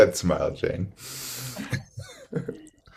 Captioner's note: laughs